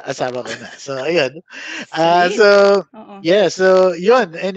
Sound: laughs

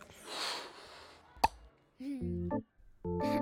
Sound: bubble gum popping; playful music

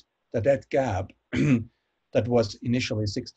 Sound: clears throat

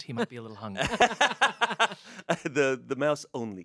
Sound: everyone laughs

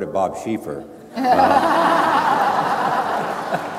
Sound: laughing

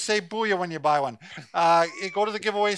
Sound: laughs

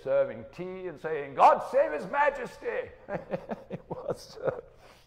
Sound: laughing

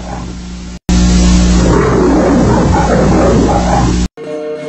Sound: Leo the Lion roars; Leo the Lion roaring; snippeted music plays

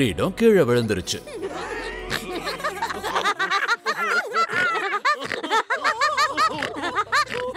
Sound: laughs

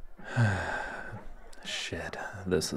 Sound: sigh

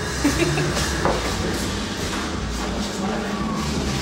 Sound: giggles

